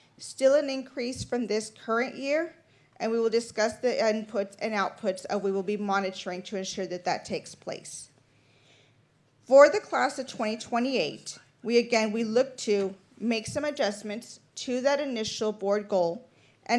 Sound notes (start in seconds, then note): none